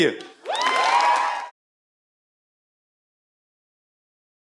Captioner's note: audience clapping